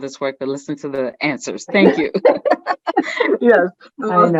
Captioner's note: chuckles